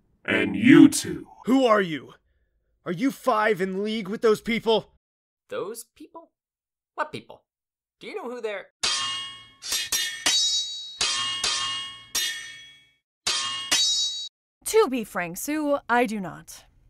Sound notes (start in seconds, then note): 9.6 swords clash